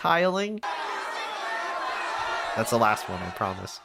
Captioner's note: angry crowd noises